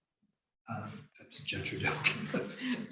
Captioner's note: laughs